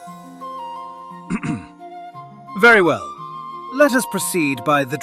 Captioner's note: clears throat